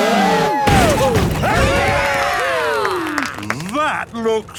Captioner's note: crowd; applause